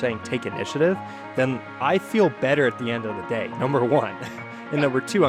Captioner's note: laughs